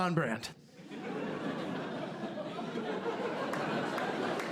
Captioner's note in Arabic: ضحك